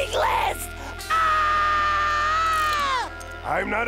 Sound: screaming

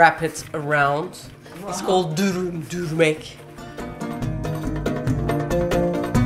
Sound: in Turkish

